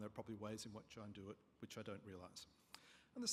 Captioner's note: none